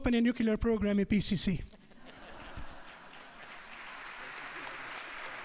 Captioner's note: crowd laughs; applaluse